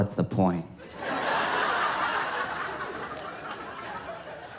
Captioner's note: audience laughing